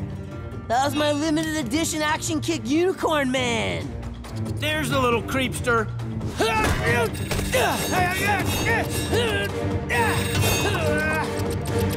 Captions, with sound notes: That was my limited edition action kit Unicorn man! There's the little creepster. [grunting]